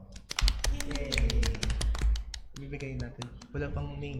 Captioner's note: applause